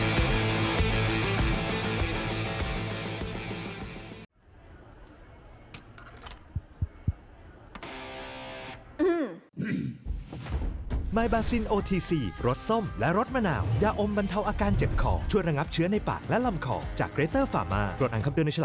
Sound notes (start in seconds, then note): 9.0 clears throat